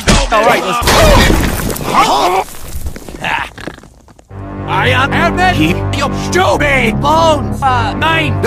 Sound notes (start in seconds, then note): 1.9 everyone gasps; 3.5 snort